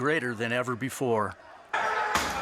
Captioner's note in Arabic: تحطيم الزجاج; صراخ مثيري الشغب